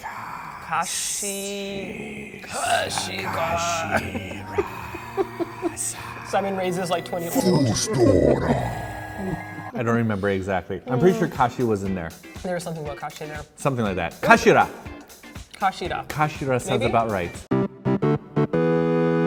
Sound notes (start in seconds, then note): 5.5 laughing; 7.9 speaking in Boss voice; 17.5 game music